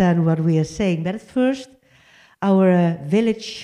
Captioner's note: none